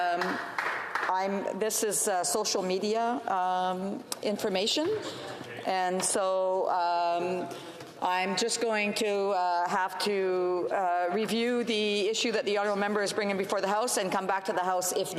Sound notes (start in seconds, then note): 2.0 off mic